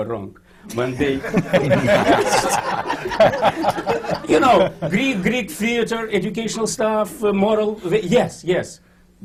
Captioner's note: laughter